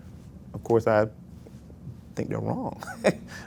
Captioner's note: laughs